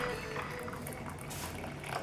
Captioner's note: pouring